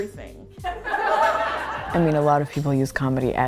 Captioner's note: laughter